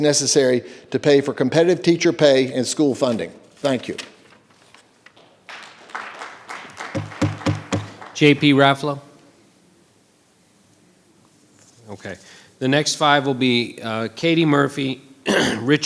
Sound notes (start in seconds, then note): 5.4 audience applause; 6.8 gavel pounding; 9.3 silence; 15.2 clears throat